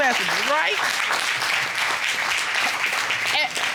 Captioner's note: applause